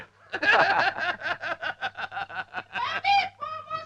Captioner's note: laughing